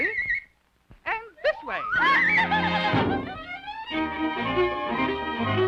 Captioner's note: Felix laughing